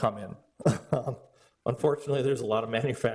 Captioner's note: laughs